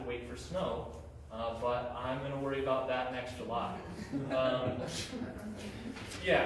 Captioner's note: chuckles